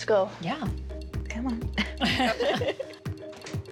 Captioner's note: laughter